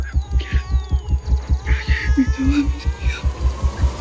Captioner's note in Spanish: Habla entre dientes